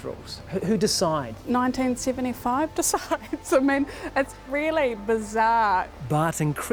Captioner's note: chuckles